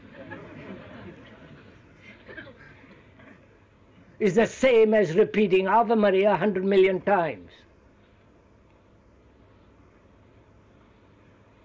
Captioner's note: laughter